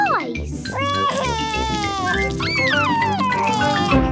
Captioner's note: crying